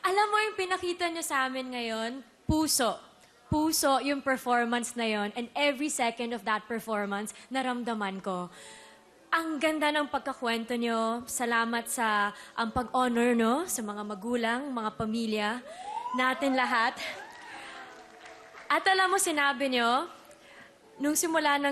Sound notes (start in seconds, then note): 17.7 scattered applause